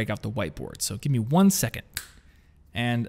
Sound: snaps fingers

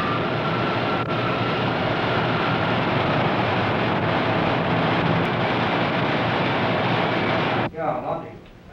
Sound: machines hum; machines whir

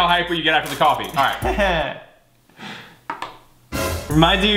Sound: chuckling; dramatic sting

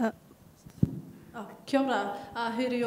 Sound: speaks in a foreign language

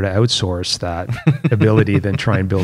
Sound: laughter

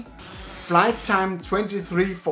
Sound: drone buzzes

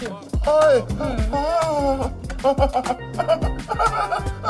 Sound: laughing in pleasure

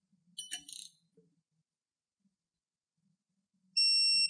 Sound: silence

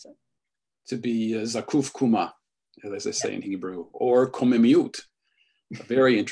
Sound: hebrew

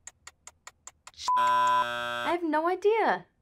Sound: buzzer buzzes; beep

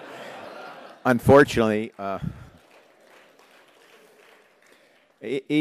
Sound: applause

